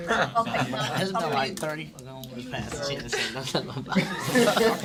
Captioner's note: students murmur